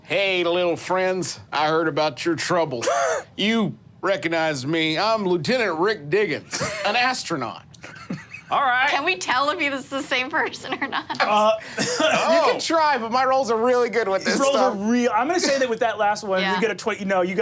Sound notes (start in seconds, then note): 10.8 laughs